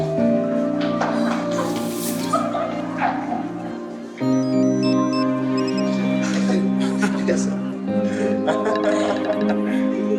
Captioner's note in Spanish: Risas